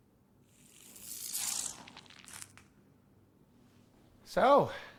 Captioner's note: electronic sizzling